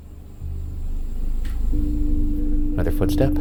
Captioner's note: mysterious footstep creaking